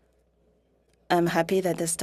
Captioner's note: speaking French